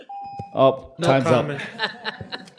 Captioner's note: ringing bell